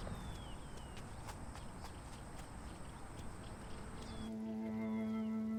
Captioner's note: footsteps tapping; somber music